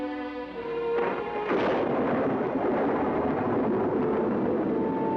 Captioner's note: thunderclap